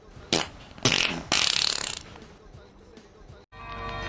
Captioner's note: impressive farting